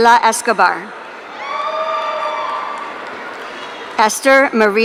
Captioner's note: audience cheering